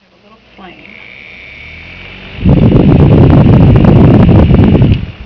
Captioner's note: air rushing at microphone